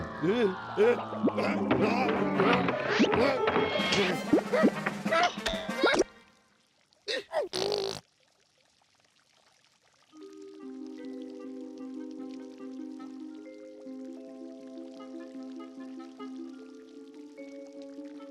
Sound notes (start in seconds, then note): 1.3 grunting; 7.1 blowing raspberries